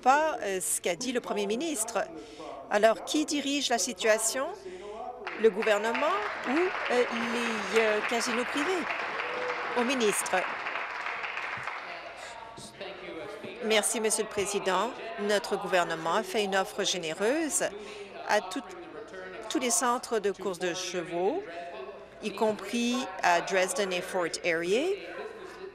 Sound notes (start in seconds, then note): 9.6 applause